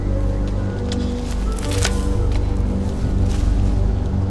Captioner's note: footsteps crunching